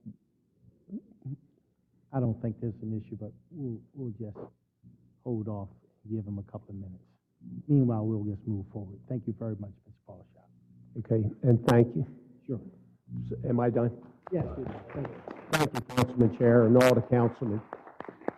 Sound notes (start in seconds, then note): 14.2 applause